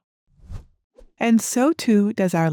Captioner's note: transition whooshes